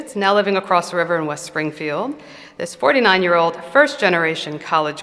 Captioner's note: none